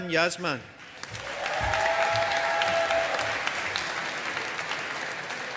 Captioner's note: audience applauding